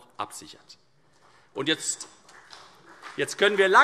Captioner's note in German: Vereinzelter Beifall CDU